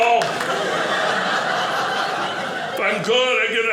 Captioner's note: audience laughing